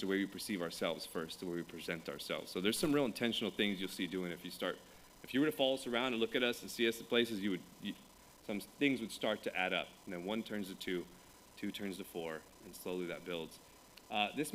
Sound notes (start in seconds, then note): none